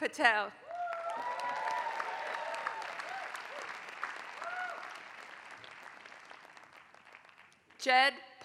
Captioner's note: applause